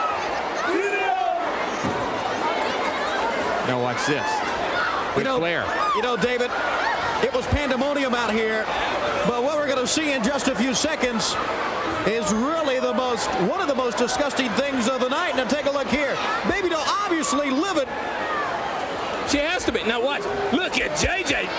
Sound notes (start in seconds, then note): 0.0 crowd cheering; 2.6 crowd chatter